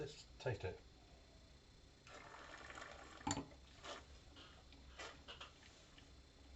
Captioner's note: slurping